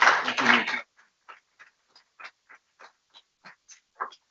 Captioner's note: people clapping